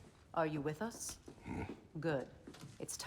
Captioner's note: grunt